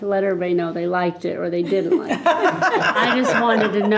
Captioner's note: group laughing